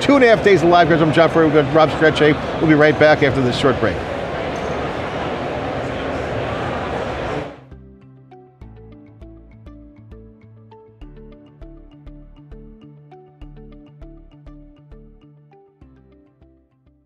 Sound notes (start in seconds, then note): 4.6 background chattering; 7.6 upbeat background music